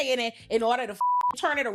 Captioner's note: beep